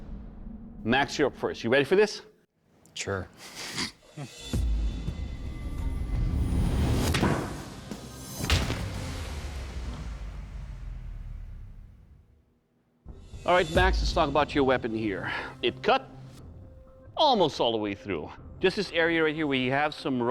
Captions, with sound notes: Max, you're up first. You ready for this? Sure. [chuckles] [thudding] All right, Max, let's talk about your weapon here. It cut... almost all the way through. Just this area right here where you have some rolling